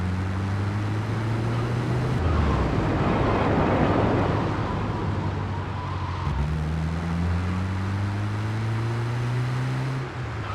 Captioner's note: engine roaring